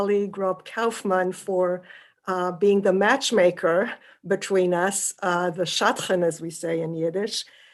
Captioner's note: yiddish